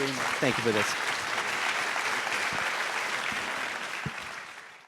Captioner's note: audience claps